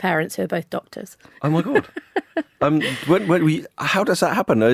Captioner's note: laughing